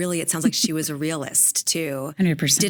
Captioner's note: laughing